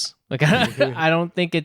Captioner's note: laughs